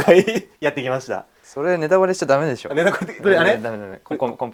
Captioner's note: laughs; laughs